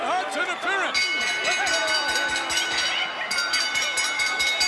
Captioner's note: bell dinging